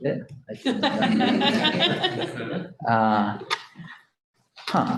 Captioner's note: audience laughing